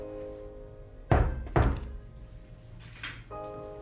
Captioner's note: knocking